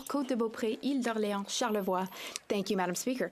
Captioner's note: speaking French